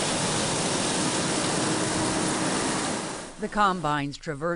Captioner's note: nats: combine machine